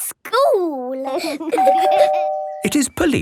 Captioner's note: door bell ringing